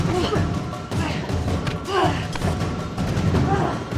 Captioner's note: both grunting